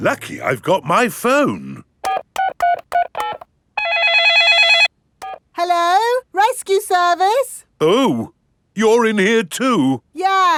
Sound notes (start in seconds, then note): 2.0 dialing; 3.8 cell phone ringing